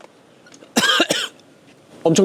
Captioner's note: cold-snap commemorative cough